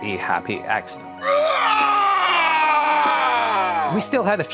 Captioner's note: screams in Scottish